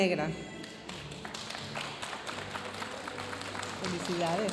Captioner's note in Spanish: aplausos de la audiencia